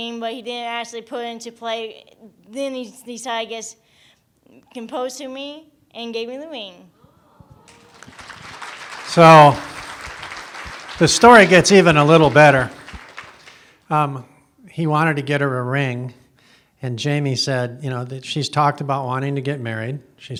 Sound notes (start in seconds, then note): 7.6 applause